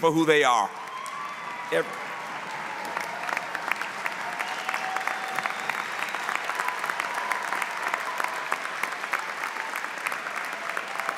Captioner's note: cheering